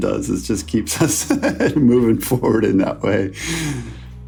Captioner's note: laughs